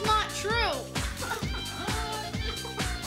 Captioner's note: crying